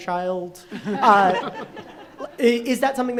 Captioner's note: group laughing